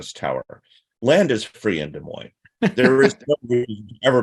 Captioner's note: laughing